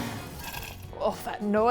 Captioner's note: blender contents spluttering